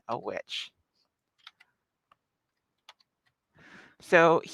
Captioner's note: keyboard clacks